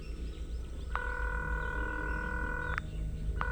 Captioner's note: line ringing